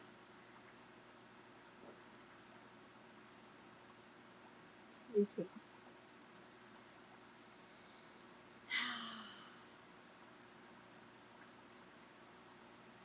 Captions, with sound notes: THAT'S IT'S A THREE [SIGHS]